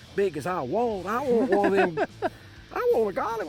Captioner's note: laughs